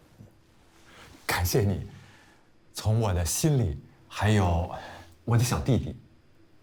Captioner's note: Jian speaking in Mandarin